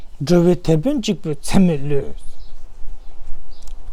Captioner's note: tibetan